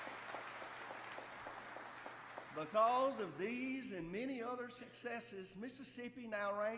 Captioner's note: applause